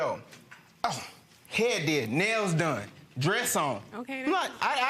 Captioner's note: scoffs